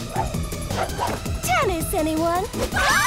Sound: all screaming

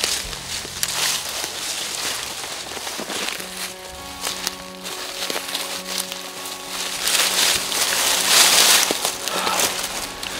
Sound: sound of walking

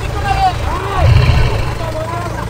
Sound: roaring

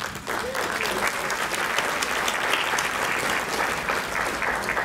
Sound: crowd clapping

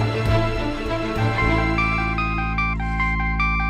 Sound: phone ringing

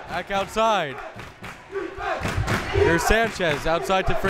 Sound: crowd members chanting

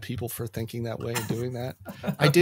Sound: laughs

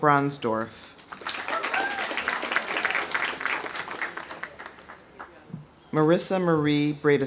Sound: audience applauding; audience whooping

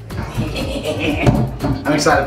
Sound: laughing

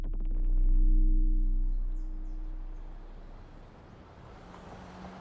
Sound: low frequency resonating

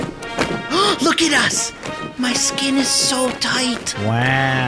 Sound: gasping

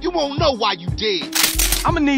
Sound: loud gun cocking noise

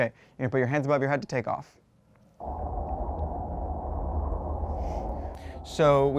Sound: wind blowing

